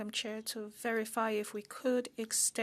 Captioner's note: speaking French